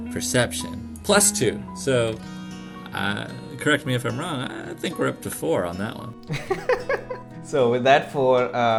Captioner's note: laughter